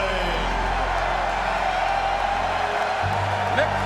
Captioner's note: crowd cheers